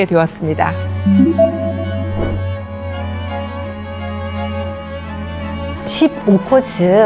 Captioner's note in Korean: 강조하는 효과음